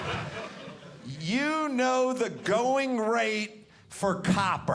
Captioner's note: audience laughing